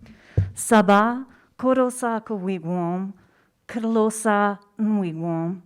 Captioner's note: speaking in foreign language